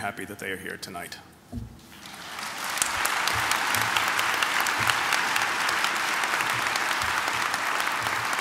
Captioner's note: applause